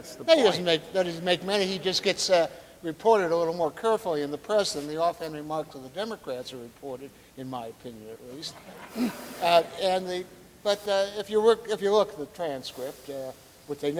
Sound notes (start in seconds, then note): 8.4 audience laughing